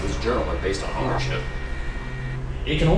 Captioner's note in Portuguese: Distorção de áudio